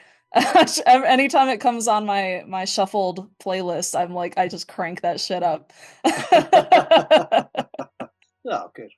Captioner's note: laughs